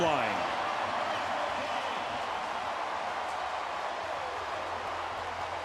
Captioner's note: crowd cheering